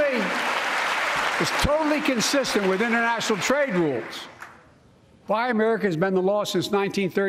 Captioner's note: applause